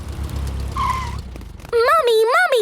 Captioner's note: tires screeching